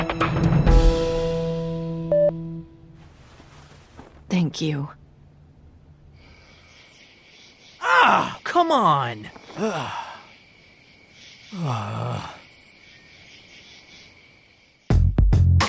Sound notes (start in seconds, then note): 9.5 sigh; 11.5 sigh